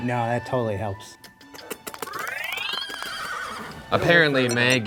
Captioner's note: making kissing sounds